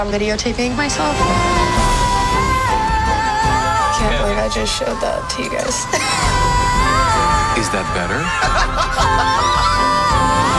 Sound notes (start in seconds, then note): 8.0 laughing